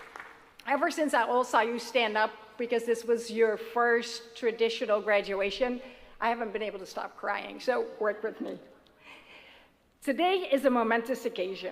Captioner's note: applause